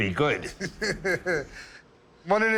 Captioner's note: laughs